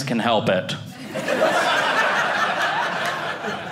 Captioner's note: audience laughing